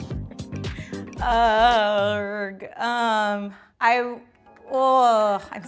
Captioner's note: gentle upbeat music; makes noises of uncertainty